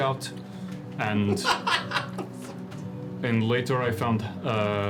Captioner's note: laughs